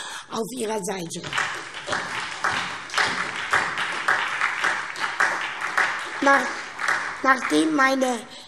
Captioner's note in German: Beifall SPD